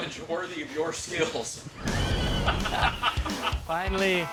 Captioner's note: laughing